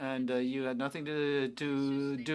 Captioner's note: speaking French